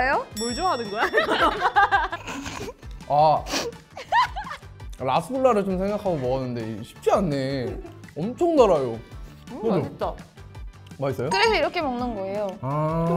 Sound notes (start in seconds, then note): 3.9 hehehehe